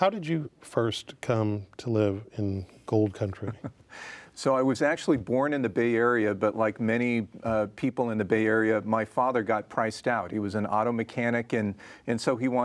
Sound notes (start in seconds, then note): 3.5 laughs